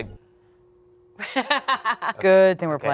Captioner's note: laughs